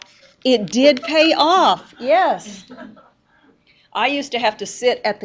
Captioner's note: students laugh